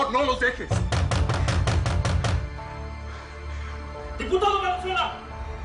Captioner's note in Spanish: De nuevo golpean la puerta